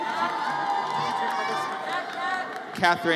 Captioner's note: audience cheers